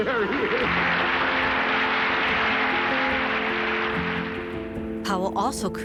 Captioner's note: audience clapping